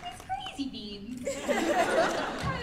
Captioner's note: laughter